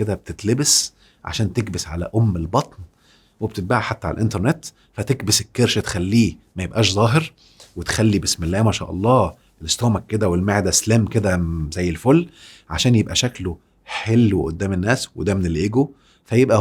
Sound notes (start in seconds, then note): 11.2 sarcasm!